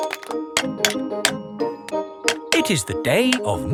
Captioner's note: clanking